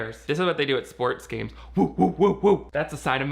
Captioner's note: hooting